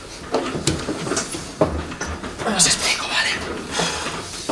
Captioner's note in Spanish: susurra